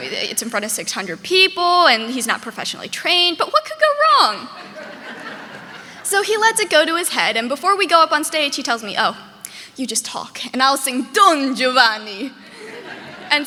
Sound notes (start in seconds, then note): 4.4 audience laughing